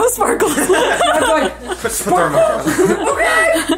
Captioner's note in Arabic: أمي تضحك